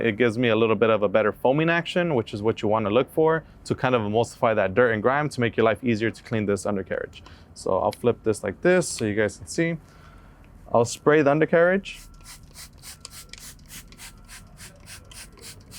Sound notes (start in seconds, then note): 12.0 spray hissing